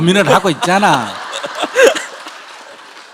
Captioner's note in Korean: 질문자와 청중 웃음